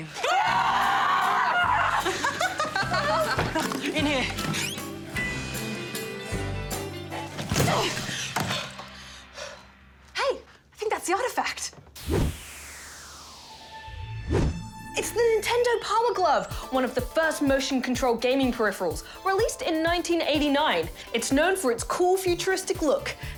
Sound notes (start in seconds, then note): 2.2 laughs